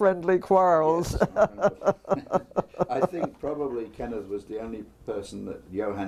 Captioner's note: laugh